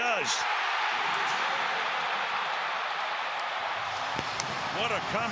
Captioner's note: crowd cheering